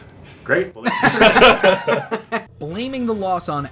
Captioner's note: laughing